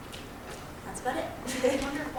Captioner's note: chuckles